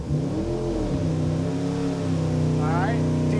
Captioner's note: engine revving